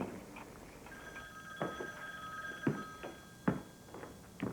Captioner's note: telephone ringing